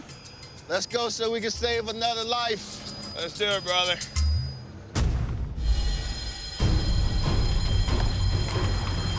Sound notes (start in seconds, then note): 5.6 alarm ringing